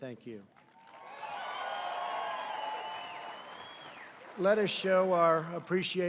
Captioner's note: applause